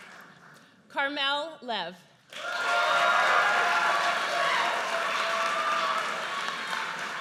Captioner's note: audience cheers